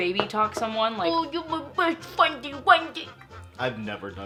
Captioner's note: mimics baby talk